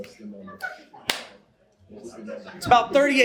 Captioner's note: audience chatter